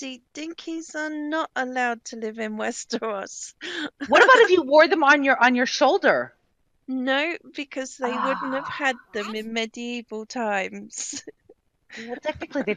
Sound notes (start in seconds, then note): 4.0 laughing; 7.8 sighing; 11.7 laughing